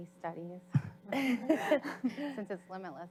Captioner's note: audience laughs